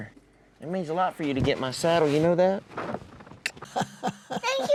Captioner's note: smooch